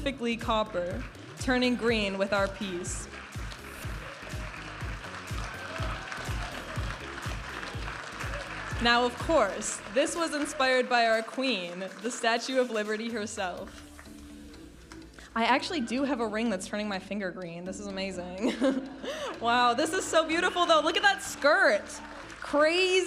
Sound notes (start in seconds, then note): 4.3 audience applauding and cheering; 6.4 vibrant music